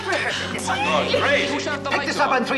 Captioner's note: actors chattering